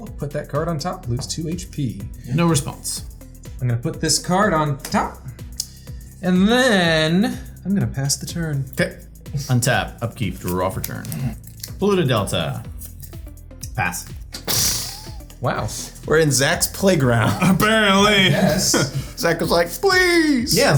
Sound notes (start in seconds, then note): 14.4 blows raspberry